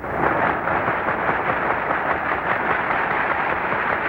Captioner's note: audience applauding